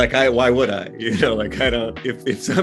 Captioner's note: laughing